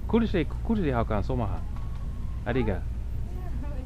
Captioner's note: somali